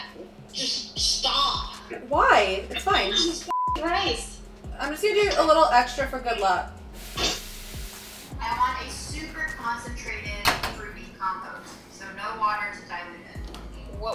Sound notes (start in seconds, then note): 3.5 beep